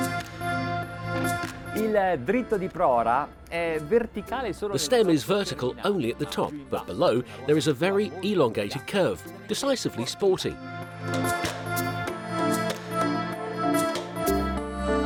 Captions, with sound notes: (speaking foreign language) The stem is vertical only at the top. But below, there is a very elongated curve. Decisively sporty.